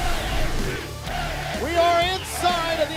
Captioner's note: fans chanting